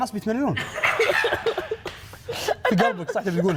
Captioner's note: all laughing